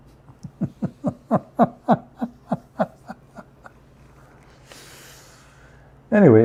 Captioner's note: Ketawa